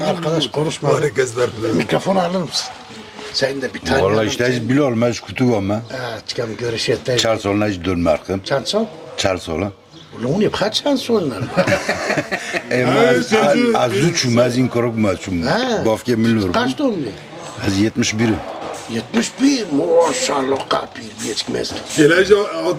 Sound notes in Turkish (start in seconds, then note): 11.4 kahkaha